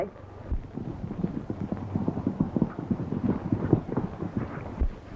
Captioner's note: horses galloping